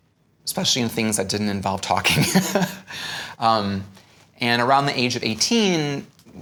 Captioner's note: laughs